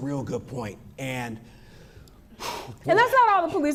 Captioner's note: exhales